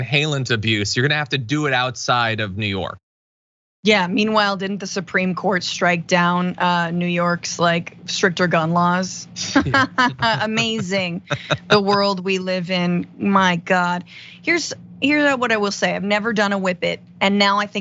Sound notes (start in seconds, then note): 9.4 laugh